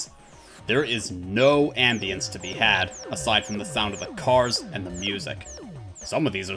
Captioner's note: warning blares